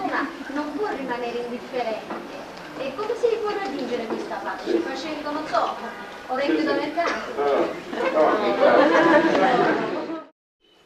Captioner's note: italian